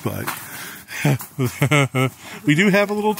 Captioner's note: laughing